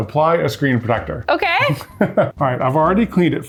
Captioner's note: laughing